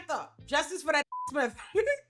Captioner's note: beep